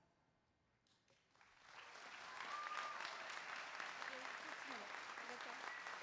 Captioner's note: applause